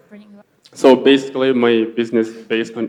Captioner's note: male Voice